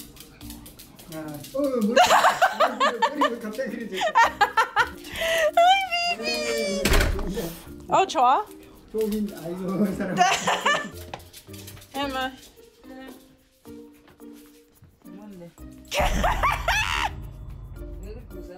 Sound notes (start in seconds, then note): 4.3 laughing; 15.9 laughing